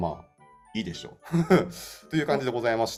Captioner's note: laugh